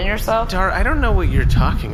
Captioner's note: vague pulsing noises, like laminated paper wobbling